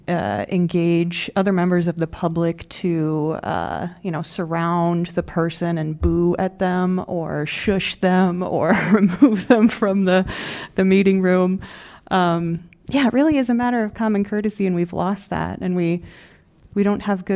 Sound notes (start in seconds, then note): 8.7 laughter